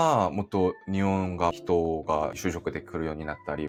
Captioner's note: Korean